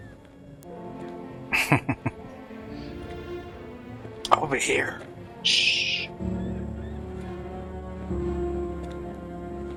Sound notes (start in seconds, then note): 1.5 chuckling